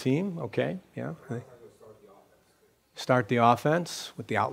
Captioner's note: voiceover